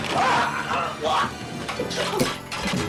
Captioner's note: dramatic music; Dr. Beck groaning; dramatic music